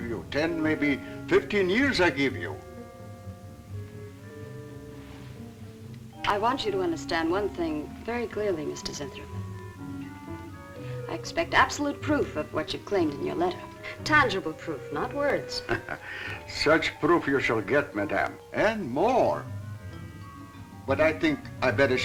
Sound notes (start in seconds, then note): 15.4 laughs